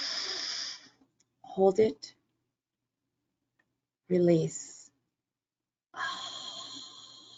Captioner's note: sighs